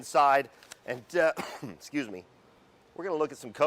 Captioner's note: coughs